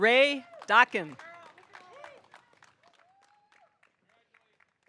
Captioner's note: audience applauding